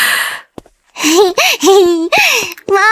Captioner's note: giggles